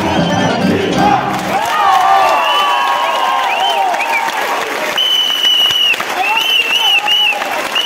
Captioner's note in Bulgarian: аплодисменти